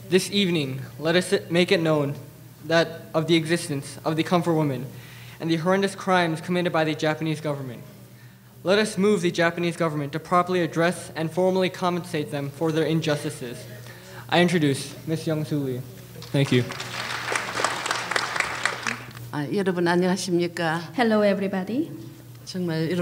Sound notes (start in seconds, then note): 16.2 applause; 19.5 speaking foreign language